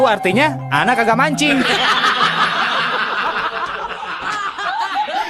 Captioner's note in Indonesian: tertawa